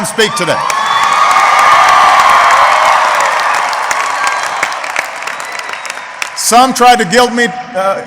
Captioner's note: applause